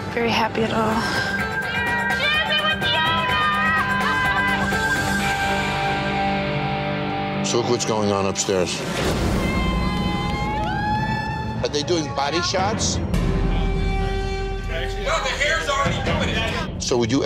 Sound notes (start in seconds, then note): 6.1 laughing; 9.3 tense music; 9.4 all cheering